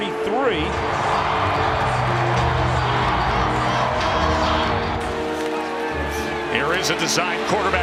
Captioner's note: crowd noise